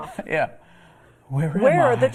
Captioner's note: laughter